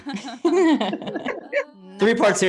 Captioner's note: all laugh